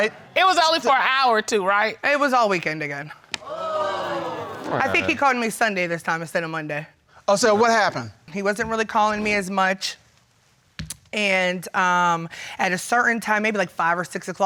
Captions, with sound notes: It was only for an hour or two, right? I was all weekend again. (CROWD CRINGES) I think he called me Sunday this time instead of Monday. Oh, so what happened? He wasn't really calling me as much, and at a certain time, maybe like 5 or 6:00